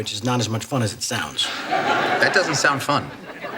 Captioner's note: audience laughs